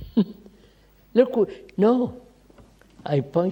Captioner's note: laughs